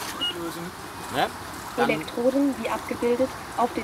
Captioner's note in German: Weibliche Stimme